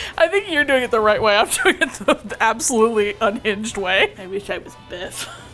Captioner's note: laughs; small voice